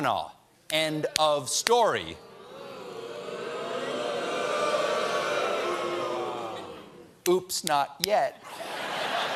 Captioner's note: audience reacts; laughter